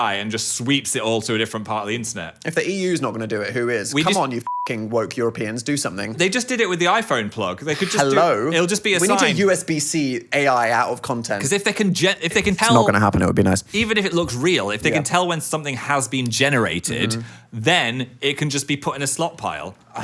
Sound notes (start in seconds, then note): 4.4 beep